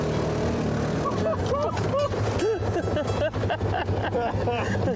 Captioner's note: laughing